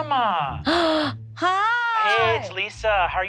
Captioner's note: gasps